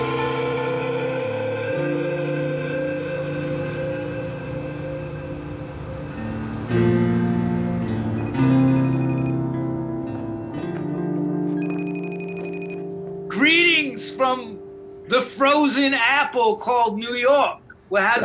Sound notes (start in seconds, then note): 9.9 beeping; 9.9 calm rock music